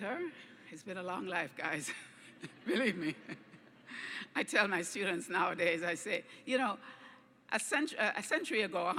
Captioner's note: laughs